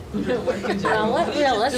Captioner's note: audience laughing